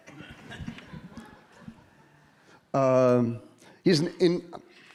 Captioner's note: audience laughing